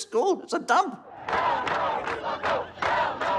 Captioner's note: chanting